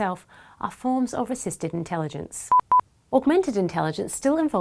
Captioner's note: quick beeping